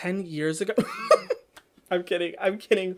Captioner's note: chuckles